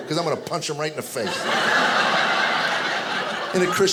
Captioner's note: audience laughing